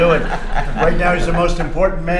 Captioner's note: laughter